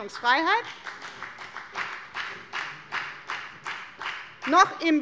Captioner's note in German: Beifall bei der FDP